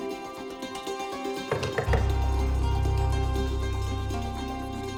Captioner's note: knocking on door